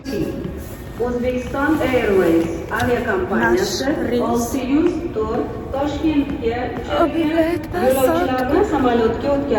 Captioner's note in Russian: Говорят по узбекски